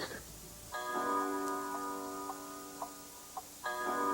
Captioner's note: clock chimes